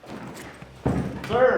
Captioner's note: bag rustling